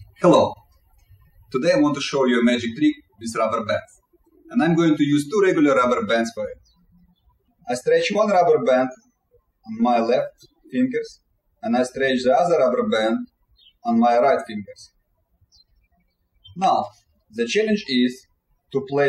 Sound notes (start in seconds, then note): 0.0 birds chirping; 7.2 birds chirping